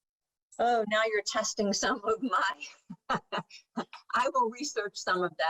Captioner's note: laughs